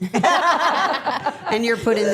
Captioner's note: everyone laughing